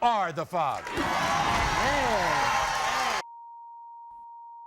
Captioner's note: audience erupts